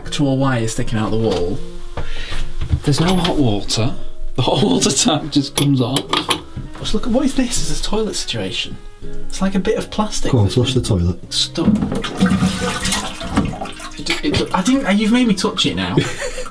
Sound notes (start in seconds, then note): 11.6 water rushing; 15.9 laughs